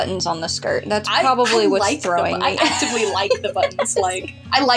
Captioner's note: laugh